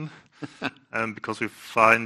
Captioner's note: laughs